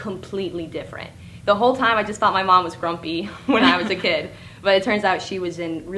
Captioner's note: laugh